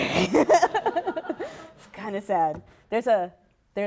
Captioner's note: laughter; laughs